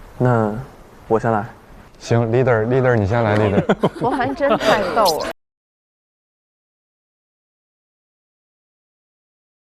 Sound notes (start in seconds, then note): 3.4 laughs